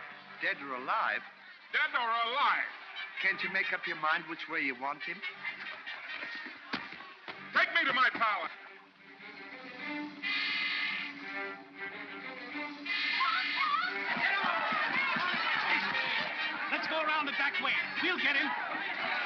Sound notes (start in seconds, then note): 9.1 dramatic ominous music; 12.8 mob clamors